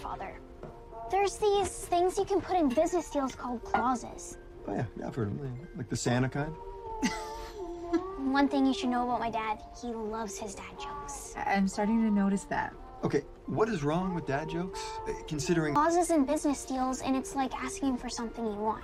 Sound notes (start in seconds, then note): 7.0 laughing